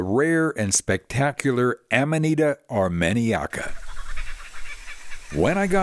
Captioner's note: Kookaburra cackle